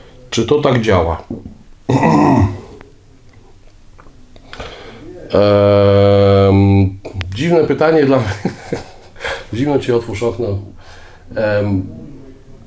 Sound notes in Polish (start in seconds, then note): 5.3 śmiech